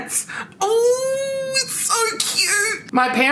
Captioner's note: screeches